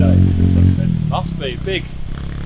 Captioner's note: loud bike engine; indistinct chatter